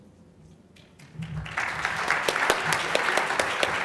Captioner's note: applauding